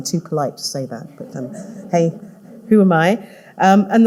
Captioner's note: audience laughing